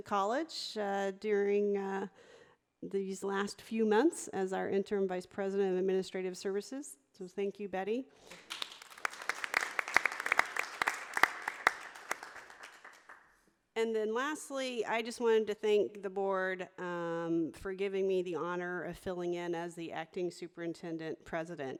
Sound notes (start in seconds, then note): 8.3 audience applauding